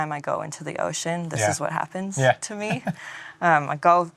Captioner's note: laughs